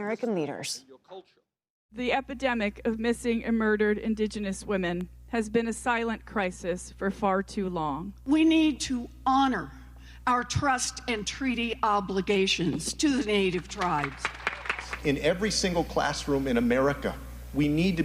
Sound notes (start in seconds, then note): 13.6 applause